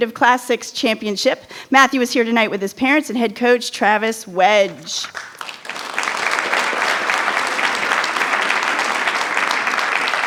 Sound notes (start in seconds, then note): 5.1 attendees applauding